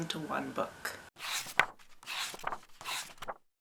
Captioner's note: pages turning